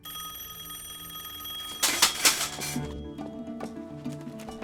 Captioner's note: telephone rings